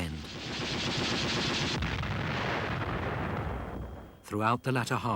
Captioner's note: guns firing; explosions booming